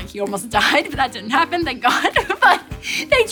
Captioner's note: giggling